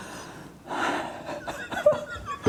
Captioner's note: gasping